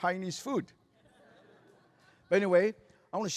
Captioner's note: laughter